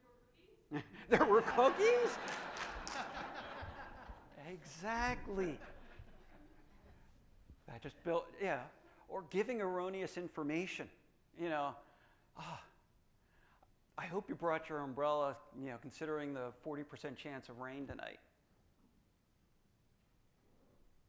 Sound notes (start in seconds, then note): 0.8 audience laughing